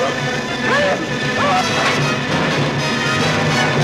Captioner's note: groaning; yelling; dramatic music